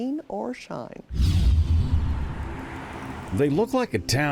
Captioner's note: screen whooshing